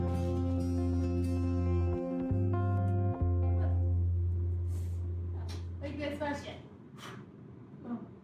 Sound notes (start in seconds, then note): 6.5 blowing